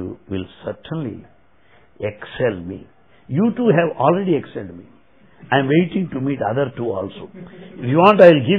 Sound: laughter

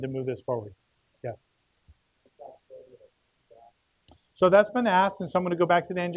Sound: murmuring

